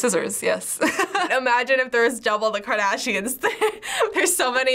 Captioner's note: laughs; chuckles